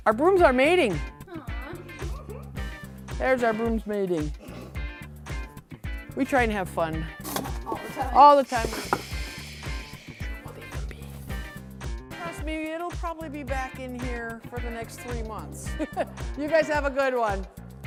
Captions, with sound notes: Our brooms are mating! - Aw! (giggles) - There's our brooms mating, we try and have fun. - All the time, all the time we-- - (shushing) We should leave them be. Trust me, it'll probably be back in here for the next three months (laughs) you guys have a good one!